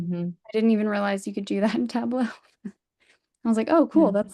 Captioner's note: laughs